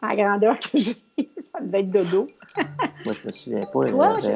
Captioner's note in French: rires